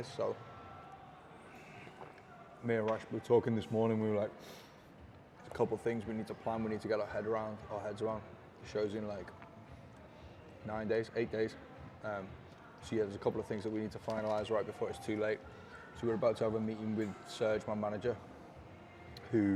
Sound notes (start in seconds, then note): none